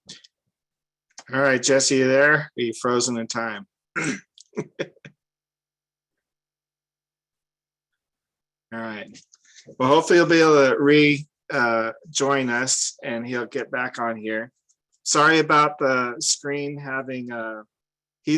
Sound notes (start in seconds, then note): 4.4 laughs